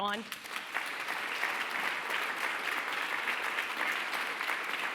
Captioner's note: applause